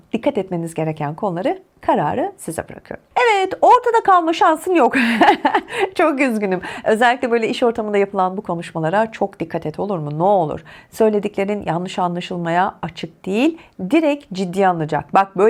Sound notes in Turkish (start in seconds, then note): 4.9 kahkaha